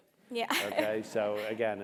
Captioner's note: laugh